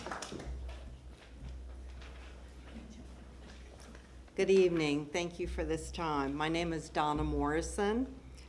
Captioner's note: applause